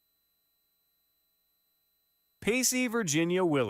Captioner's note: none